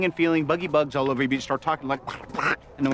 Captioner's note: makes quacking sounds